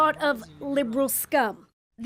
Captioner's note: speaking alternate language